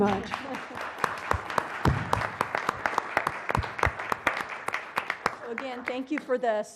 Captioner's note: laugh; applause